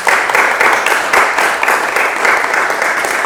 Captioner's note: applause